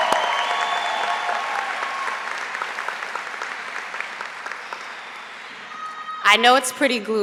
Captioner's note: applause